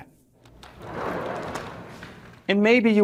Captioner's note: chalkboard whooshes